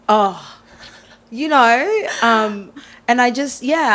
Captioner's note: chuckles